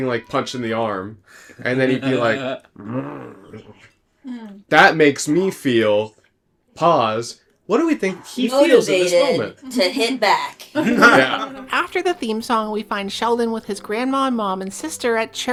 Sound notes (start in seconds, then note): 10.7 laughter